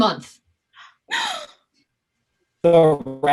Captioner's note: rat gasping